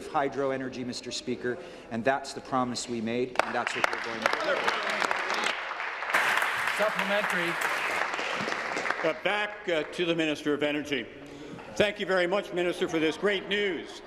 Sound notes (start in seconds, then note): 7.9 applause